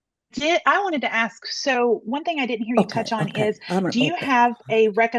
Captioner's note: speaking quietly in background